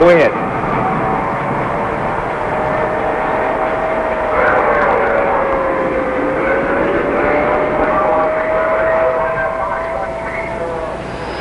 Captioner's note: sirens, talking, public address system sounds